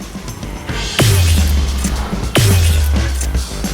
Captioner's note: portal noises